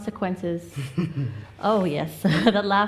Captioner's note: laughs